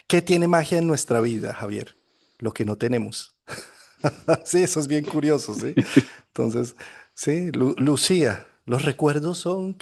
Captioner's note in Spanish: risas